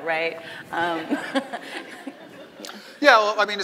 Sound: laughing

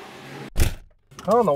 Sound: door closing sound

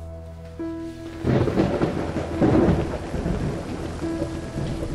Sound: cracking thunder

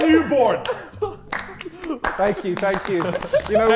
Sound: Sidemen laughing and applauding

